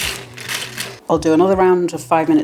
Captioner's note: rustling scraping